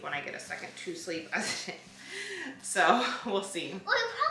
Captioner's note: laughs